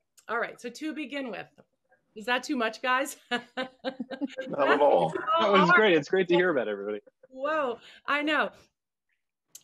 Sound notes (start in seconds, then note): 3.4 laughing